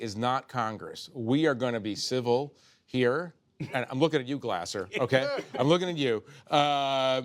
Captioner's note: laughter